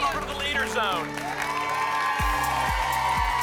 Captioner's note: applause and cheering cont